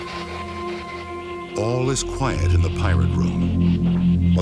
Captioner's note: voiceover